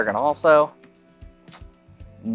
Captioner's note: sucks teeth